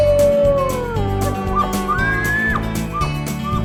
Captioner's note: wolf howling; elk bugling